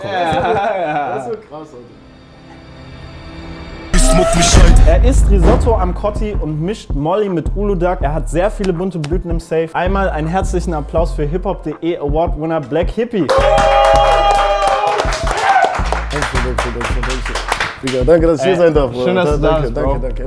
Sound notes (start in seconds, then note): 0.0 laughter; 3.9 music intro; 13.3 applause